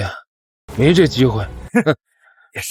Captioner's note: scoffs